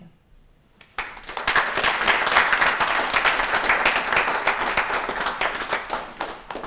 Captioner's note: applause